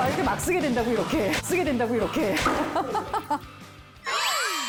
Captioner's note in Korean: 웃음